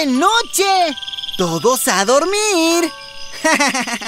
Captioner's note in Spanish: Sonido de grillos